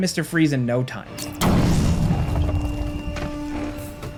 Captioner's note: explosion booms; dramatic music